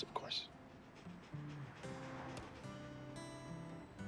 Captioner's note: panting